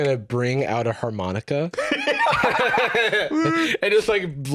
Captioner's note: both laugh